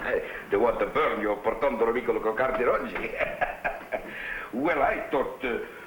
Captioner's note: speaking in foreign language